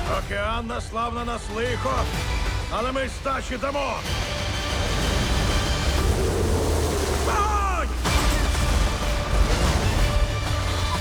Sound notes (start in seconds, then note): 6.2 creature roars; 8.0 dramatic music continues